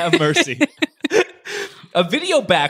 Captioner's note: laughing